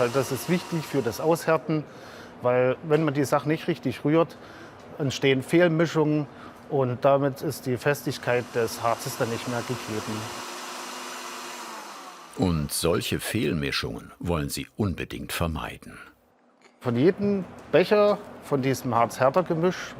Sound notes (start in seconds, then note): 10.6 whirring sound